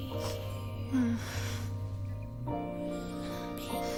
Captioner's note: moans